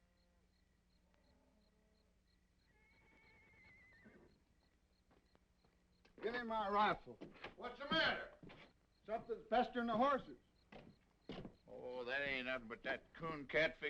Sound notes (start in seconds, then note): 2.7 horse neighing